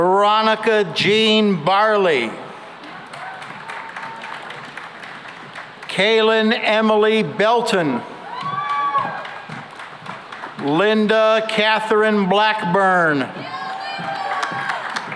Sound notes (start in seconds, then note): 2.8 applause; 8.1 cheering and applause; 13.2 cheering and applause